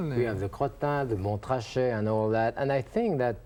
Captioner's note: french language